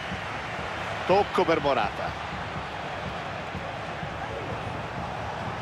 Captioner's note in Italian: Applauso